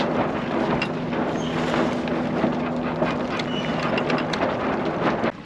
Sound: jib lufffing

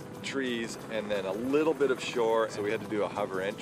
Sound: voiceover

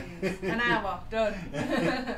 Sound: laughs

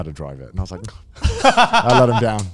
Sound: laughing

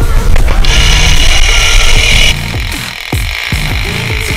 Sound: drill grinds

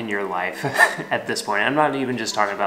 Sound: chuckles

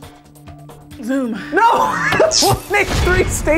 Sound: laughs

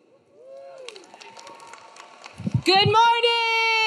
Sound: audience cheering; audience clapping

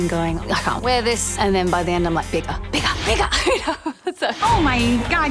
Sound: laughing

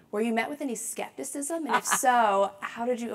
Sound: laugh

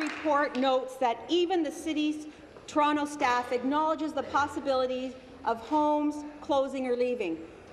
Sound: applause

